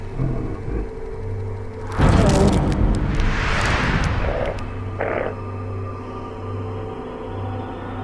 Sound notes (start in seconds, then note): 0.0 muffled grunting; 1.8 bones crack